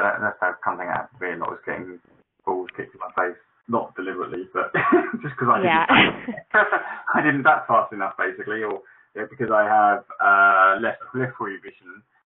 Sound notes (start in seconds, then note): 4.5 laughs